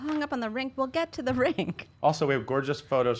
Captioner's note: laughing